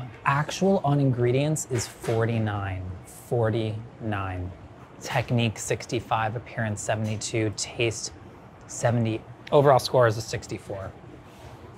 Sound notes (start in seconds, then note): none